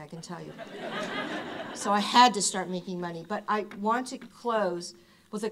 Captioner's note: laughter